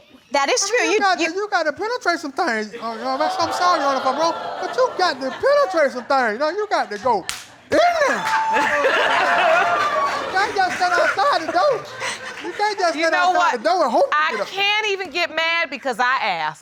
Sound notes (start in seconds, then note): 2.8 audience exclaims; 9.2 audience laughing